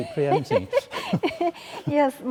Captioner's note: laughing